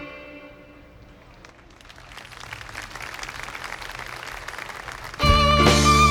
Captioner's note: applause